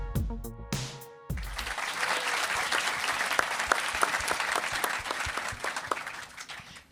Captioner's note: applause